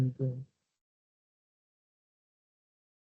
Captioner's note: silence